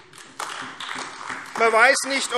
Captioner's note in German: Beifall AfD